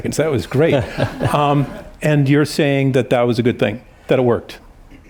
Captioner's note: laughter